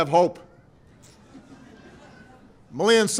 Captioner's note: laughter